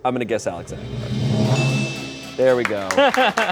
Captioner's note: bell chimes